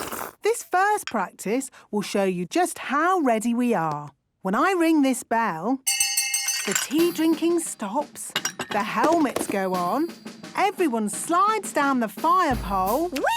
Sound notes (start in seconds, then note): 5.8 tea cups clinking; 5.8 hand bell ringing